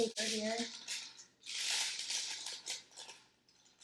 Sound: crinkling paper

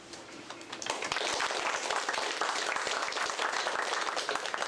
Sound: applause

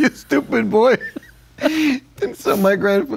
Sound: laughing

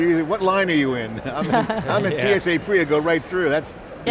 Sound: laughing

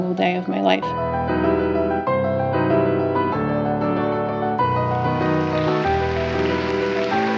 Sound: piano music; audience applauds

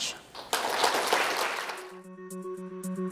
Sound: applause; calm music

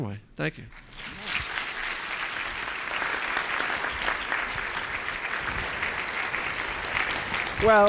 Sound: applause

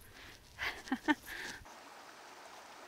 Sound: laughs; water running

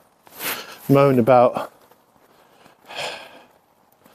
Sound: sighs

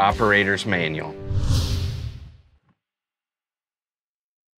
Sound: air whooshing

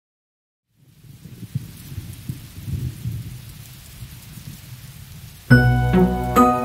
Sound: rain splashing and distant thunder

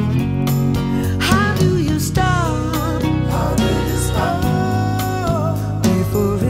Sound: awwwww

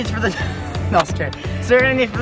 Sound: laughs

